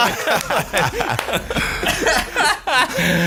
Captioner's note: laughter